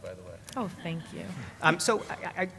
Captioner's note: laugh